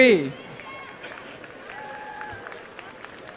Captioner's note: applause